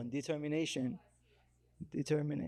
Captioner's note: attendee chattering